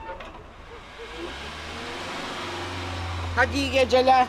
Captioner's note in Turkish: Araba motor sesi